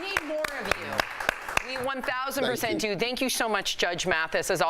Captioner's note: applause